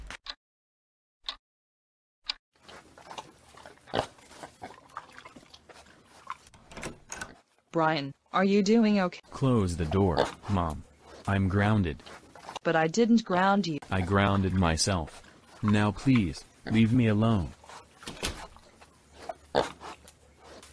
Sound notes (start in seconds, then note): 1.2 clock Ticking; 2.5 eating Sounds; 6.5 door Opens; 18.0 door Closes; 18.6 eating Sounds Continue